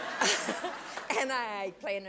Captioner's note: laughing